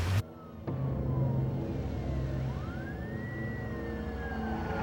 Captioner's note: siren wailing